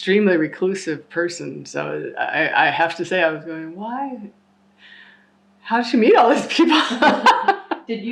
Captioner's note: laughter